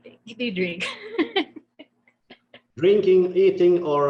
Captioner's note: laughing